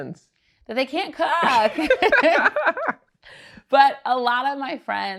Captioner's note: both laugh